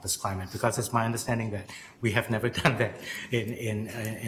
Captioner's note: chuckling